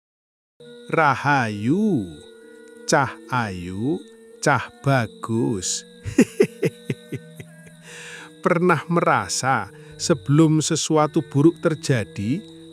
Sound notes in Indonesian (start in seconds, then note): 6.0 tertawa